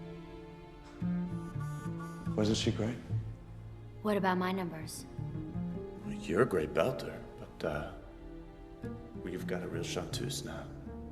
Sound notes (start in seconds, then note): none